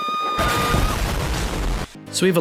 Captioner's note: huge explosion